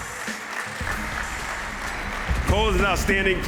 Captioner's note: applause